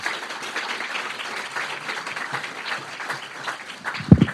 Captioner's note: audience clapping